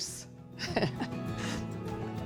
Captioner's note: chuckles